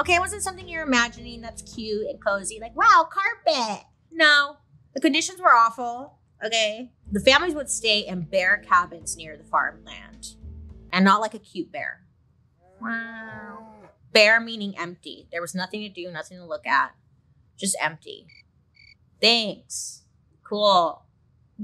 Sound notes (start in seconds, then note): 12.7 roars; 13.0 bear roars; 18.8 crickets chirping